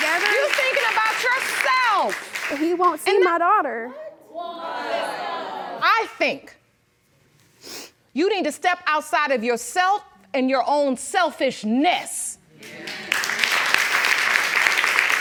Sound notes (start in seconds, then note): 4.2 audience murmuring discontent